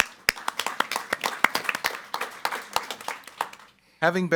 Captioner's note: group clapping